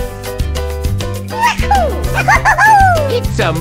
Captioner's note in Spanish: Suspiro